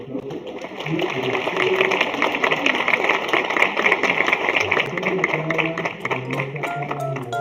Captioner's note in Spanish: aplausos